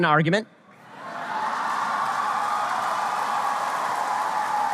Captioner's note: audience applause